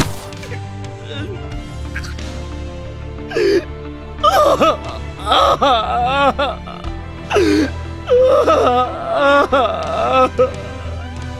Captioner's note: cries loudly